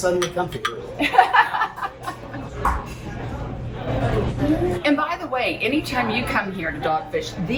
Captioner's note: laughs